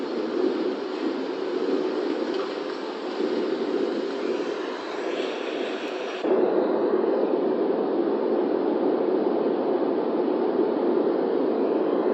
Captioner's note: white noise sounds playing